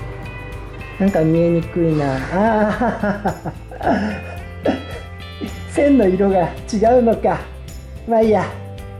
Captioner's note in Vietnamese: cười